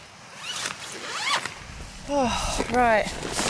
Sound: zips

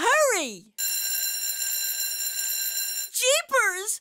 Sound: school bell ringing

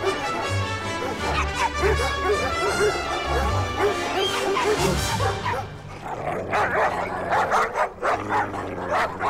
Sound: vicious Dog barking, growling

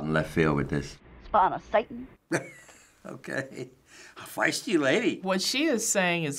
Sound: laughs

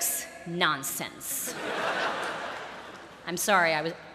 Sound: laughter

